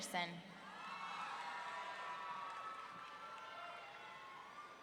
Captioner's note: audience cheering